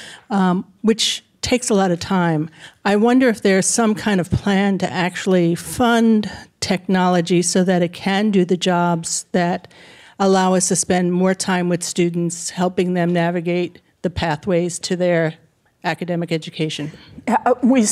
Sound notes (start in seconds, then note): none